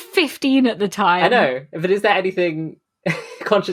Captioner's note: laughing